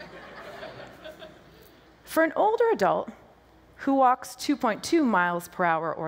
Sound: laughter

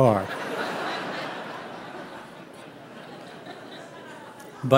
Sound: audience laughing

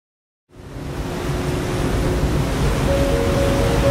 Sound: boat sounds

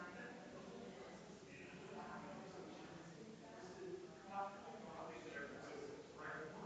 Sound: people chattering distantly continues

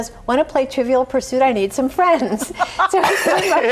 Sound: laughs

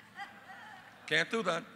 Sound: laughter

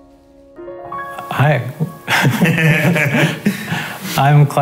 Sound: laughing

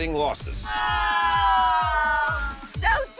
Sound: groaning

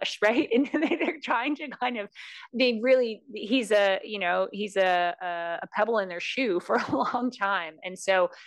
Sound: laugh

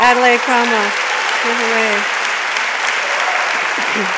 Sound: audience applauds

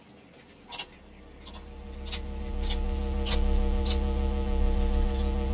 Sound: electricity humming

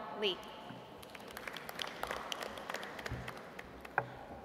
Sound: audience applauds

